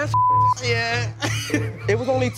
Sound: laughs

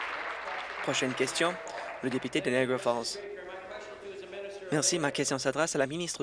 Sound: applause

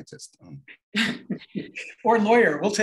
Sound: laughter

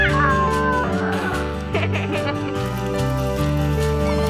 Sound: yelling; laughing

